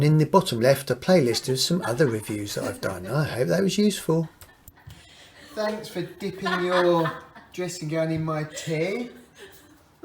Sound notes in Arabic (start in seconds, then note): 9.0 يضحك